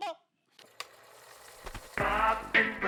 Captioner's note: projector clattering